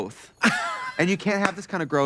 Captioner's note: Katya laughing